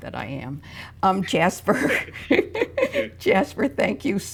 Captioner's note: both laugh